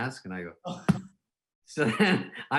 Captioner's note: hand slapping